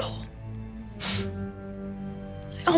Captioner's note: scoffs